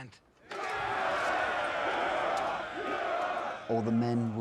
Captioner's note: cheering